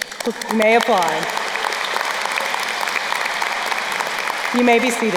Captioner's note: crowd applauding